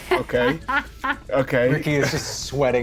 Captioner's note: laughs